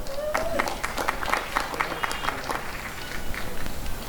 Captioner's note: applause and cheering